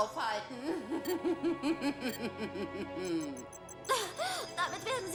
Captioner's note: laughing